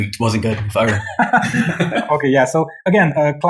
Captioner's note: laughing